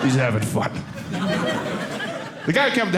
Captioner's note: audience laughing